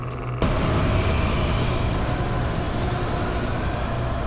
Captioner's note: wind whirling